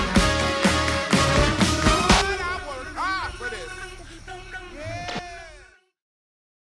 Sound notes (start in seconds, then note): 2.0 tv static